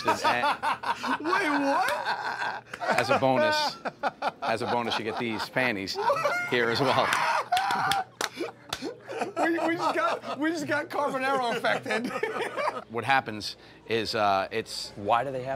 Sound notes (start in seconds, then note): 0.6 laughs; 7.1 laughter